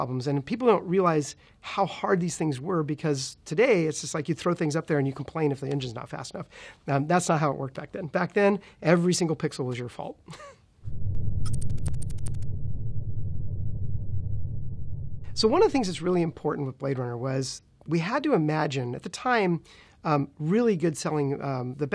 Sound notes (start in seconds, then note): 11.0 laughs; 11.4 electronic typing